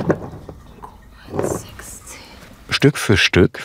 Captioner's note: quietly